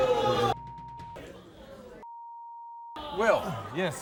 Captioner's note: beep